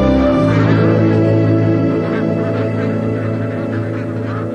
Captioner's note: quacking continues